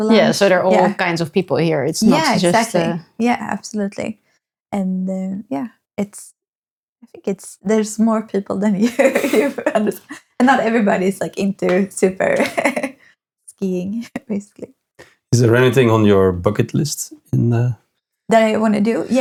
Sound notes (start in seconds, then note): 8.8 laughing